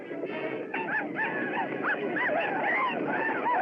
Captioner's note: war Whoops Continue |